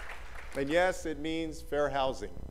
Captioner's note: applause